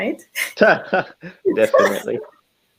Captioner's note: laughing